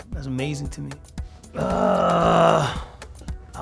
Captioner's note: grunts